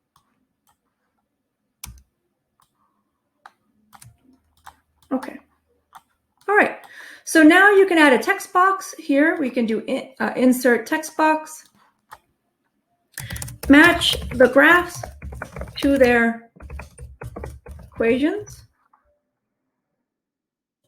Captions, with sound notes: (mouse clicking) Okay. Alright. So now you can add a text box here. We can do Insert, Text Box. Match the graphs (keyboard clicking) to their equations (keyboard clicking)